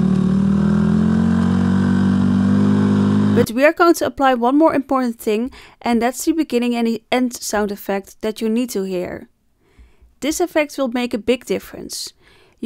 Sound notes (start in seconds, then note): 2.3 sound effect from a car